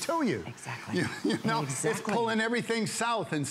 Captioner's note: laughter